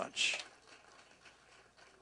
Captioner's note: applause